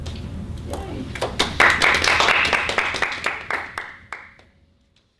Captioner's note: applause